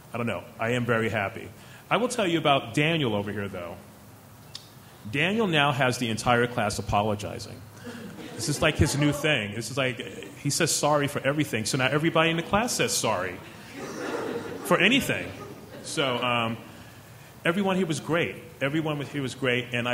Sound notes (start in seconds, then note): 13.4 chuckling